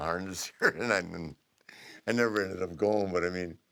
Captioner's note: laugh